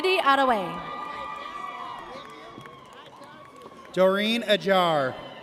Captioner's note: audience cheers